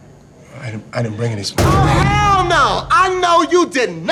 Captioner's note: slams table aggressively